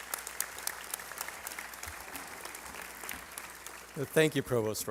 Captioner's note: applause